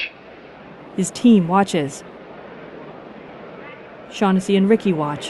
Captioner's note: subtle crowd noise